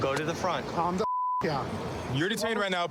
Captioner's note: beep